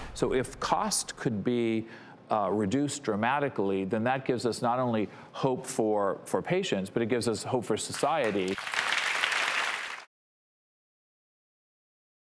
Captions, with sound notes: So if cost could be reduced dramatically, then that gives us not only hope for patients, but it gives us hope for society. (audience applauding)